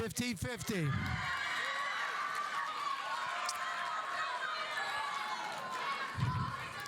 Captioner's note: audience cheering; audience applauding